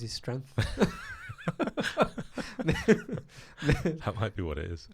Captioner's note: laughs loudly